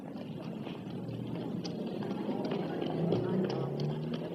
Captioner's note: chattering